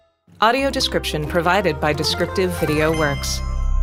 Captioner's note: Mojang sound